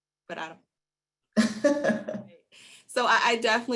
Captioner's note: laughs